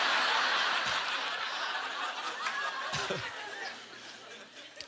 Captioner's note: audience laughter